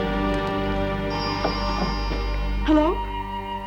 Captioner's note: telephone rings